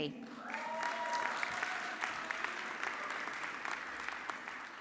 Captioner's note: audience clapping